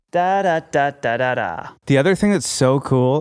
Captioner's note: man hums